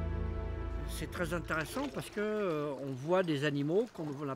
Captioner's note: speaking French